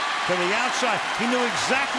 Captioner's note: cheering